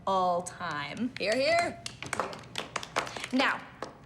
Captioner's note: applause